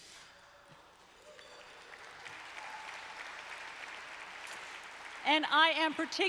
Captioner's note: applause